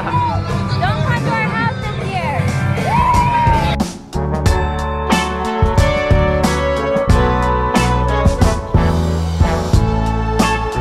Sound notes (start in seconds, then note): 2.5 crowd cheering; 3.5 jazz music